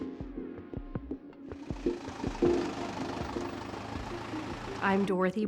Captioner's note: engine whirring